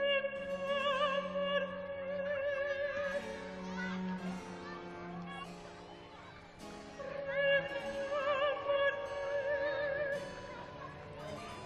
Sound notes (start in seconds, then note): 3.9 chiIdren pIaying